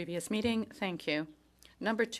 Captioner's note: speaking in French